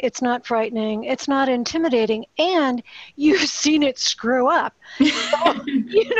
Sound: laughs

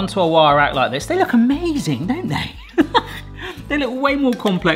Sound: laughs

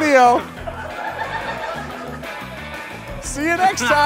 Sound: laughter

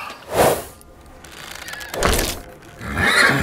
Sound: ropes creaking; neighs

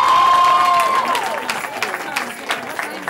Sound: cheering

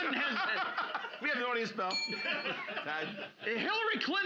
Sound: loudly laughing; bell softly chimes

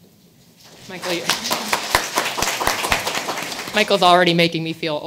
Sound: audience applauding

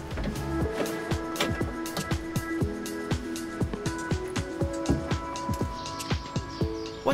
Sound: soft upbeat music; box clicking

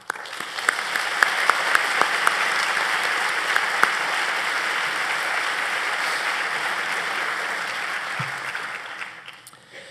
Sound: applause

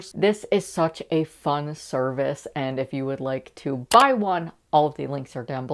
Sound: mouse click

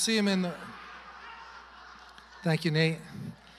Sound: congregation laughing

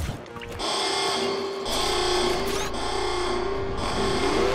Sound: alarm buzzing

